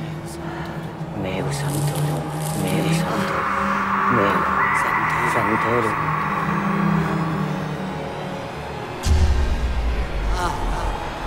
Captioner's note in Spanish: habla en latín